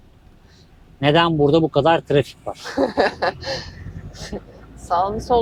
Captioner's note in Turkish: kahkaha